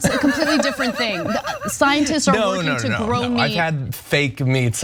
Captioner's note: laugh